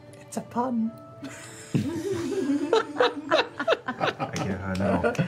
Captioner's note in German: Lachen